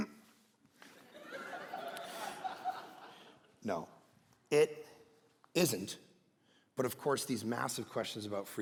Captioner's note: congregation laughing